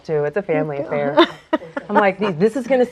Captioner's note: laughs